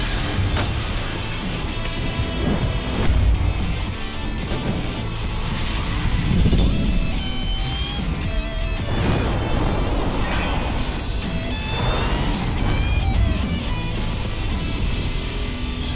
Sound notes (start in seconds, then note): none